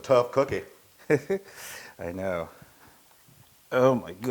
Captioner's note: laugh